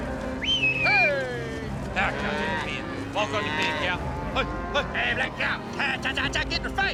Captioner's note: whistling; calling cows, cattle moo